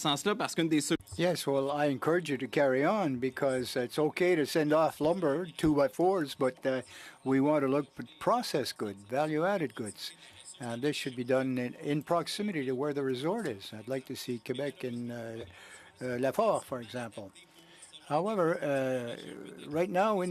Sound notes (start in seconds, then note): 5.7 speaking french